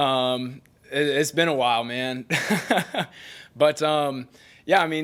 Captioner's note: laughing